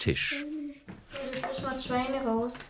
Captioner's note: children's voices